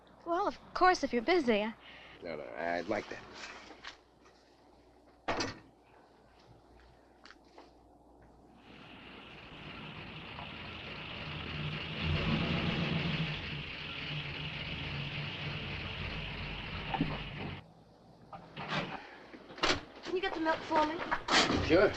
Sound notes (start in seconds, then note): 8.6 car engine rumbling